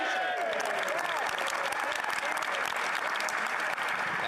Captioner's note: applause